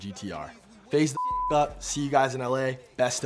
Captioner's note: beeps